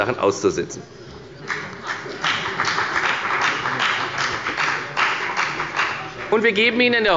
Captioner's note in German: Beifall bei der FDP